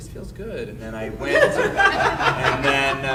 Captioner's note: audience laughing